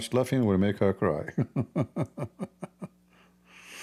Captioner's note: Ketawa